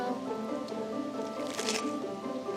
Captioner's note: bread crunching